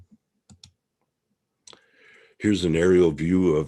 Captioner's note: mouse clicking